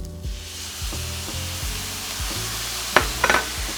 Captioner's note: frying pan sizzling; glass dish bangs